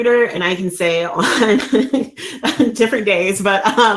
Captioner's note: chuckles